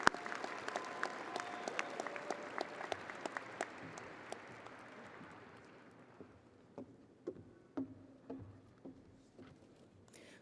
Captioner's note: audience applauding